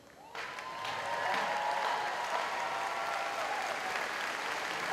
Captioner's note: audience applauds